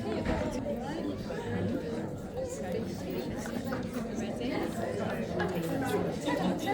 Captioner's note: people chattering